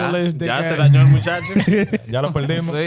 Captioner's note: speaking In Foreign Language